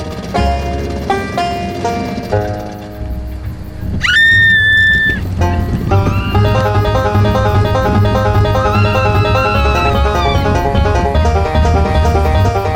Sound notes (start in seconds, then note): 3.9 screaming; 5.1 fast suspenseful music; 8.6 screaming; 9.2 fast suspenseful music